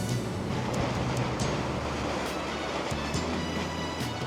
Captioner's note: waves whooshing